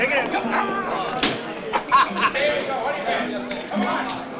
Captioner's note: all laughing